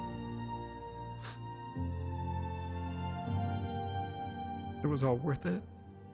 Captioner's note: disbelieving sigh